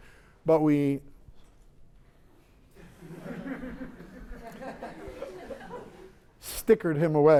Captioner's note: laughter